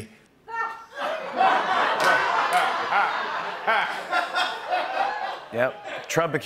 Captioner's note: laughter